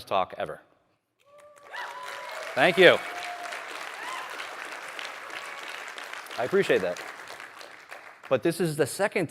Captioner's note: applause